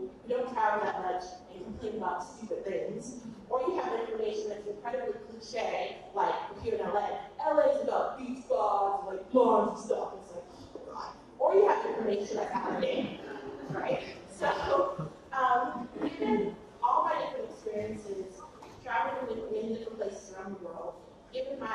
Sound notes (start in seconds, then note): 12.4 laughs